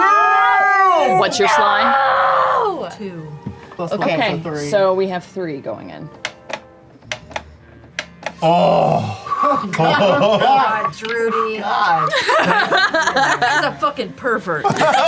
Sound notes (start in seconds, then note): 8.3 groans; 12.8 laughs; 14.6 laughter